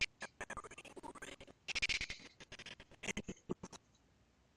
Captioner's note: audio skipping